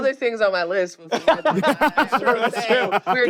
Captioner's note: laugh